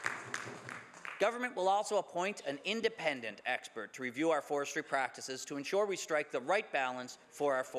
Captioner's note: some Applause